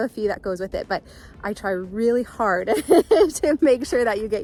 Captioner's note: laughs